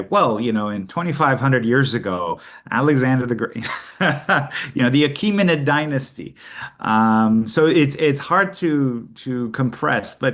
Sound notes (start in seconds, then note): 3.7 laughs